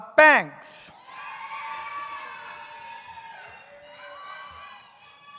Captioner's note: audience cheers